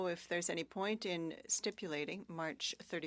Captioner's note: speaking french